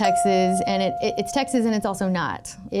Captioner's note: chime pings